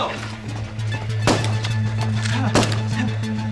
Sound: blam!

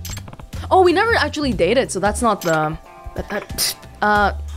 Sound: scoffs

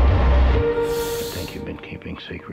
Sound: sucks in breath

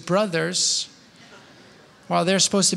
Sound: laughter

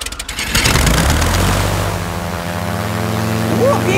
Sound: plane humming

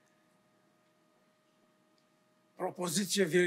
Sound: foreign language

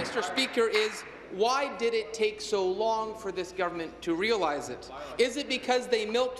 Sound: applause

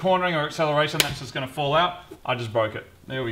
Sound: snap!

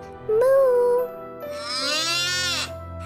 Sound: mooing

